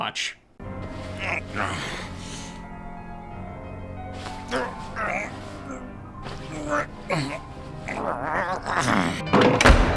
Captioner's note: grunts, piano music in background; SFX: door opening, piano gets louder